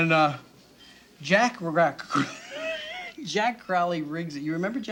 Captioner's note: laughs